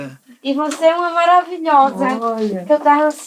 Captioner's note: laughs